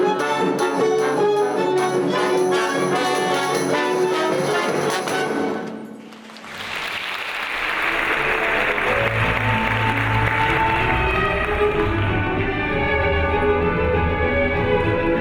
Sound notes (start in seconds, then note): 6.0 audience applauds; 11.6 orchestral music